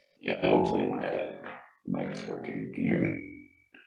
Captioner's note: distorted voice